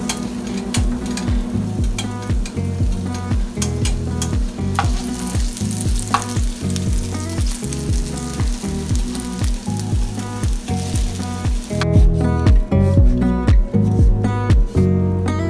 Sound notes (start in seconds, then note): 6.8 sizzling sizzling sizzling